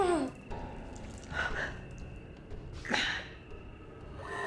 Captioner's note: Claire groans